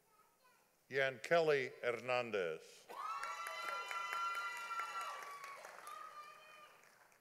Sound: audience applauding

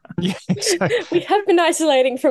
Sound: laughter

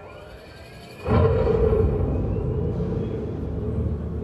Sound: car revving

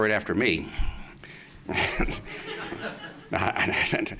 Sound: laughs

